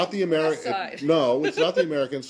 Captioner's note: laughter